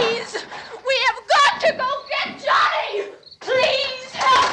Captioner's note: screaming